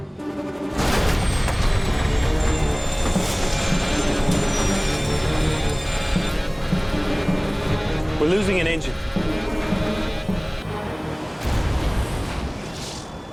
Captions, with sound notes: (loud exploding) - We're losing an engine. (dramatic music)